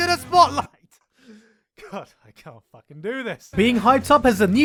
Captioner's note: chuckles